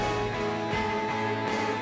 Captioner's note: none